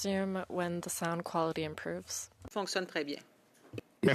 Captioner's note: speaking French